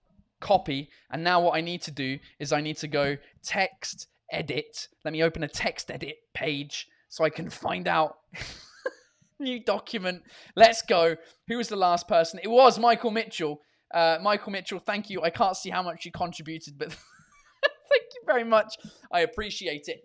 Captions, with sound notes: "Copy" and now what I need to do is I need to go TextEdit, let me open a TextEdit page, so I can find out "new document", let’s go. Who is the last person? It was Michael Mitchell. Michael Mitchell thank you, I can’t see how much you contributed but *laughing* thank you very much! I appreciate it.